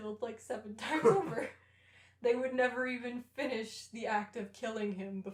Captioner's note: laughter